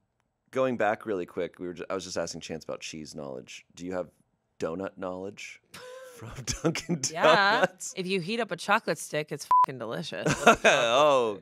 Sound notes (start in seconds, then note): 9.4 beep; 10.2 laughs